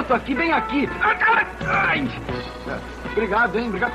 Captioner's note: groans